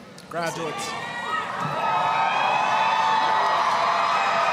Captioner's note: applause, cheering